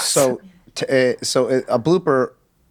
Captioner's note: laughs